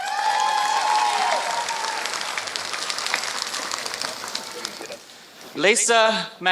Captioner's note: applause